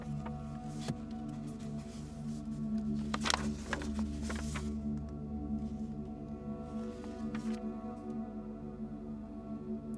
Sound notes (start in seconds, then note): 1.0 book thuds; 3.0 pages rustling